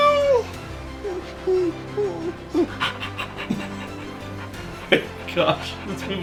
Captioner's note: whimpers and pants